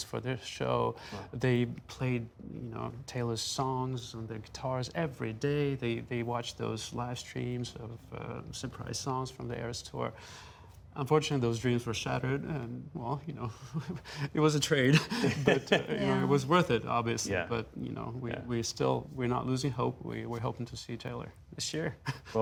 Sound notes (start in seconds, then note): 14.9 laughter